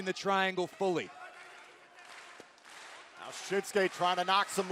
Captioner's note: crowd cheering